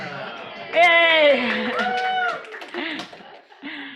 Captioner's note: audience laughing; audience cheers